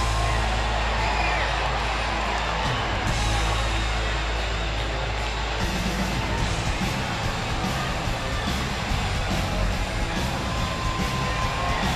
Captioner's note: crowd cheering